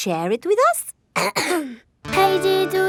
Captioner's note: clears throat